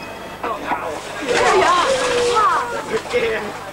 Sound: excited exclamations

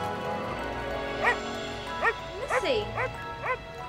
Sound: dog barking

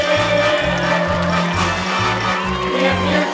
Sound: cheering

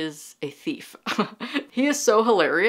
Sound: laughs

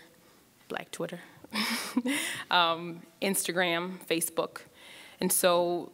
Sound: laughs

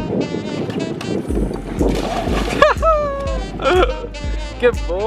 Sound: water splashing and laughter

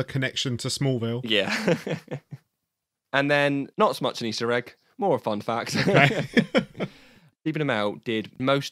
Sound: laughs; both laugh

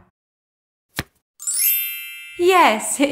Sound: the sound of a card being turned over can be heard; the sound of stars can be heard

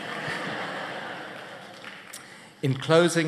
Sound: laughter

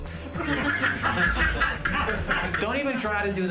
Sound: audience laughing

